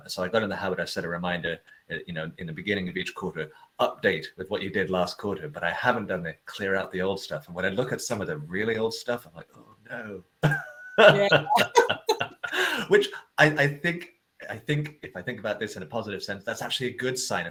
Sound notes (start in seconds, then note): 10.4 laugh